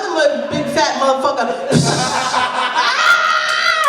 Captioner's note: mimics splashing sound; screaming